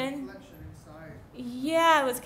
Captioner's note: voiceover